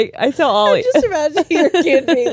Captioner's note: all laughing